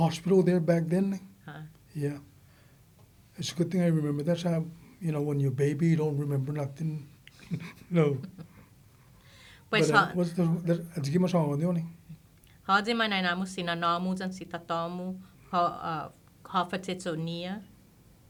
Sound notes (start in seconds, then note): 7.4 laughing